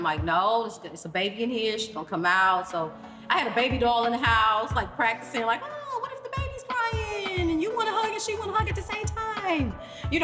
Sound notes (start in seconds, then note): none